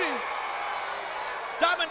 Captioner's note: crowd cheering